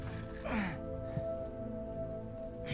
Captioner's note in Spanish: Gruñidos